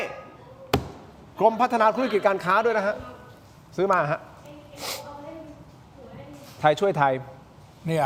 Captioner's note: takes a deep breath